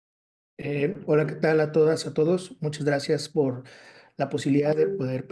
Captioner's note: speaking Spanish